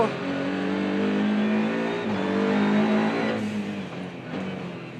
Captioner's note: car engine revving